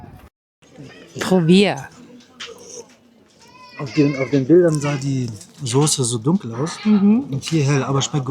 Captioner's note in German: weinen